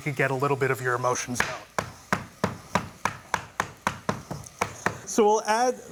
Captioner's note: banging